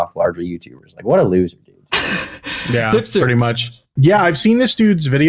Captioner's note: laughs